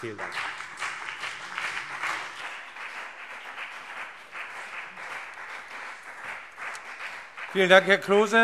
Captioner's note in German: Beifall CDU und BÜNDNIS 90/DIE GRÜNEN